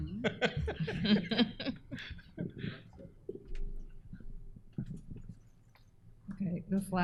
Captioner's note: laughter